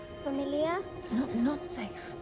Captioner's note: Mya speaking in foreign language